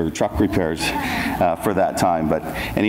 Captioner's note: audience laughs